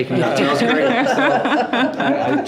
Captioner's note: group laughs